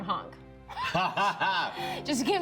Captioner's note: laughs